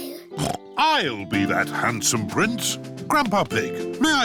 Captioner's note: snorts